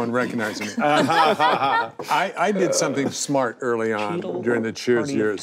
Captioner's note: group laughing